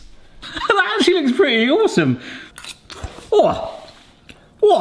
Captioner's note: chuckling